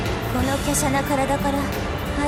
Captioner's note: none